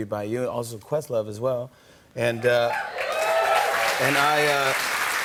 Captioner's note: cheers and applause